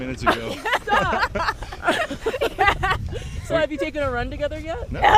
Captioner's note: all laughing